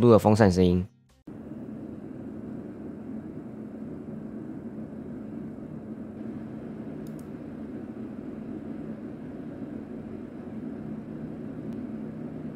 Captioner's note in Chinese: 播放風扇聲音